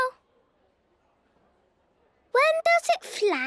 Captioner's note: silence